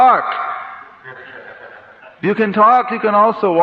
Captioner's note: laughter